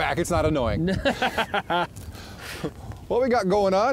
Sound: laughs

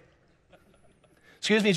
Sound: congregation laughing

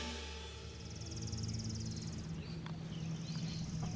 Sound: birds chirping

